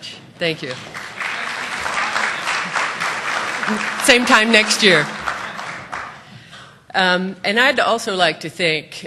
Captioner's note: applause